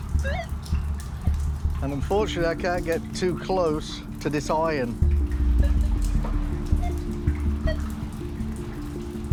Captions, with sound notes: [beeps] Unfortunately, I can't get too close to this iron. [beeps continue]